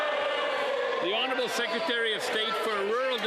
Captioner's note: some Applause